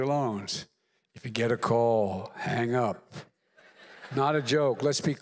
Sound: laughter

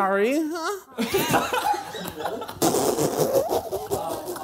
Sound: laughing

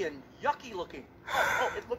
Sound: sighs frustrated

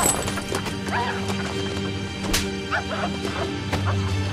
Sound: chain link fence rattling

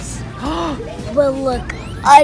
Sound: mom gasps

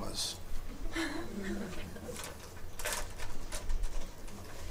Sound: audience chuckles

